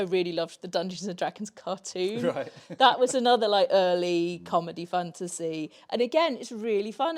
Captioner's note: laughs